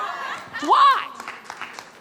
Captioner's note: audience clapping